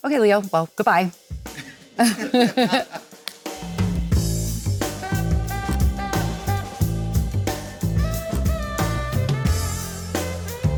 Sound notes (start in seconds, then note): 1.5 Leonardo and Jennifer laughing; 3.4 jazz music